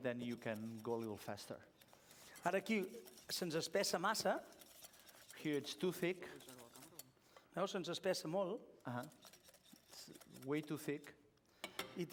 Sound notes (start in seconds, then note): 3.1 non-english speech; 8.1 non-english speech